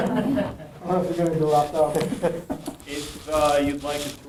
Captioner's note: all laughing